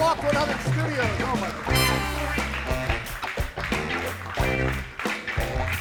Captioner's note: audience claps